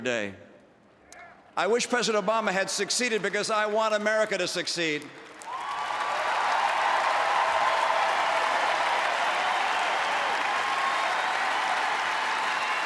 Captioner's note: applause